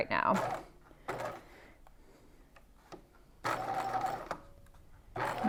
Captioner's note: machine whirring